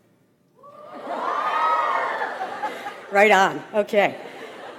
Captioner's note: audience applauds